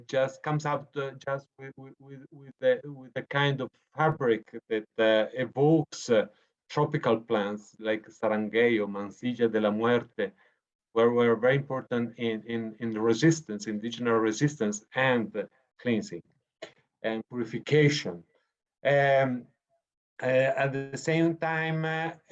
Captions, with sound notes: Just comes up with a kind of heartbreak that evokes tropical plants, like (speaking foreign language), were very important in the resistance, indigenous resistance, and cleansing and purification. And at the same time,